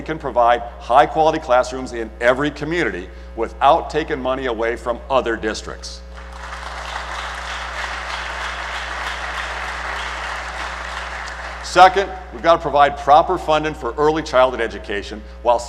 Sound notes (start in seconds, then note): 6.1 applause